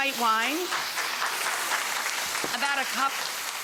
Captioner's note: audience applause